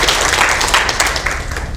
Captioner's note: applause